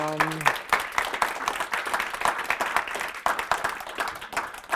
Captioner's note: applause